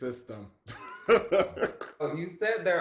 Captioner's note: laughs